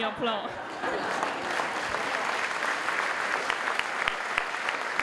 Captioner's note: applause